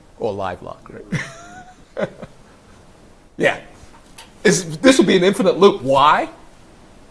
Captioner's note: laughs